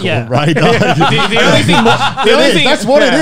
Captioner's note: laughs